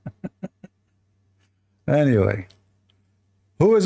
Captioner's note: Ketawa